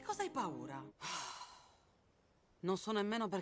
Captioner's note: Barbara sighs